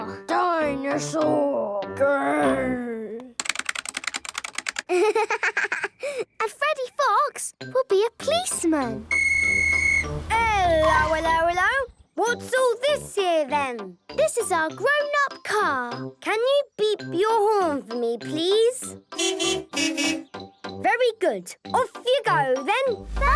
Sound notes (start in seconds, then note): 3.3 keyboard clicking; 9.0 whistle blowing